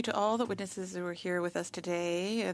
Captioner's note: speaking French